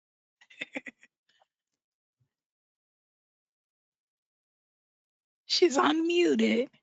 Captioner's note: giggles